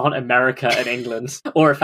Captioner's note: laughs